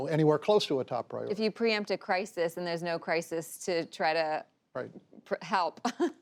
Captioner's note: laughs